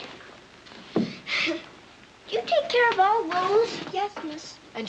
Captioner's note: chuckles